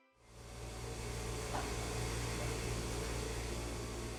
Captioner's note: machine buzzing